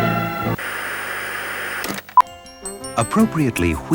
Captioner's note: television static